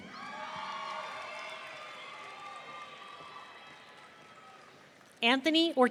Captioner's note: audience cheering